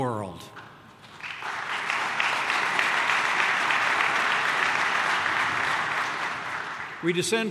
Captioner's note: applause